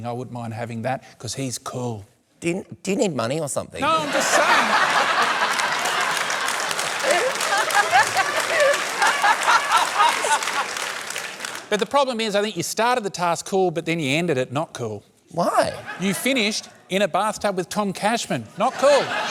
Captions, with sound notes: "I wouldn't mind having that, 'cause he's cool." Do you need money or something? No, I'm just saying. (LAUGHTER, APPLAUSE) But the problem is, I think you started the task cool, but then you ended it not cool. Why? You finished in a bathtub with Tom Cashman - not cool.